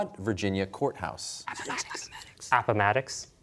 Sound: whispering

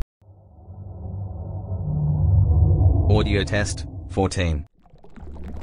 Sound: eerie ethereal transitional SFX

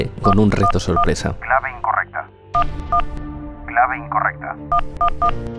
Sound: computer voice

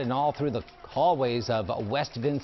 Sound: applause

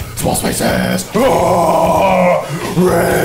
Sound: growls

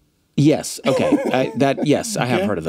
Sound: laughs

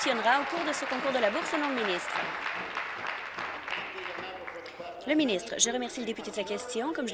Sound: applause

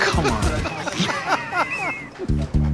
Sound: laughter

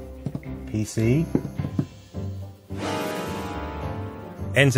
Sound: spooky sound

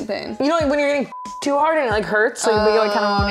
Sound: beep

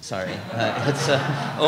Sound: laughter

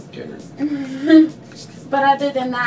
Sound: laughs

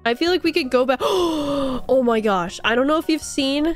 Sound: gasp

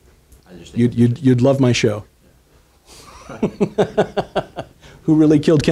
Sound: laughs

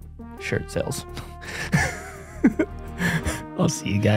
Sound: chuckles

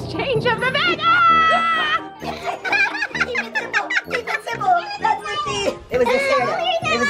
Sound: yelling; laughing

